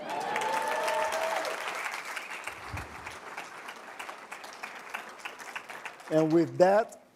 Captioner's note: cheers and applause